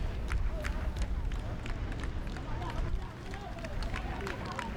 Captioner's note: fans clapping rhythmically